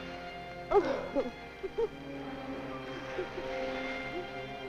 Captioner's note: light orchestral music; Ismene sobbing